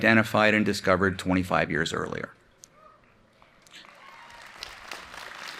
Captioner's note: applause